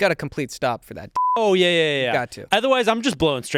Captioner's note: beep